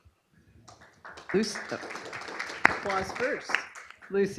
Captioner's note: applause